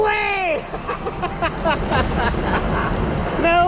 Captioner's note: laughing